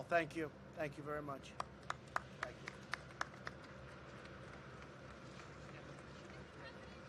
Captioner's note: applause